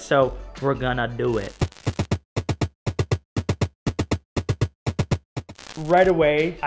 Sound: upbeat drum music; static crackling

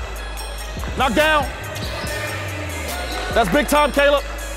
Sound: slow music continues; overlapping chattering

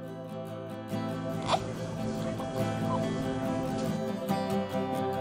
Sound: upbeat music; baby cooing

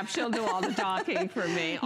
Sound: laughter

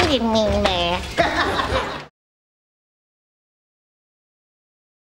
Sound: audience laughs

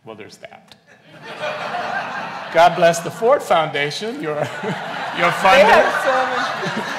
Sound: laughs

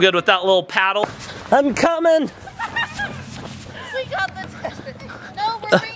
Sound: distant laughter

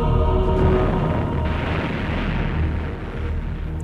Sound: bomb blasting

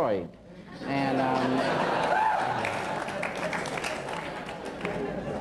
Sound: laughter

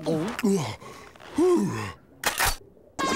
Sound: sighing; gun cocking

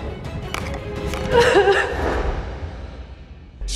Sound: cries

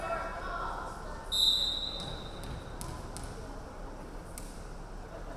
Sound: referee whistling

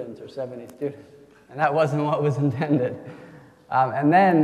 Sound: chuckles

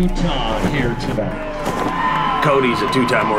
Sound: cheering

